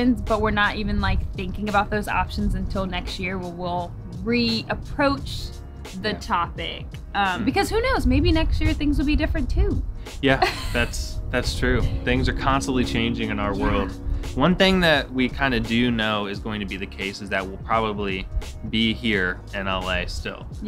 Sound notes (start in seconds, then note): 10.3 laughs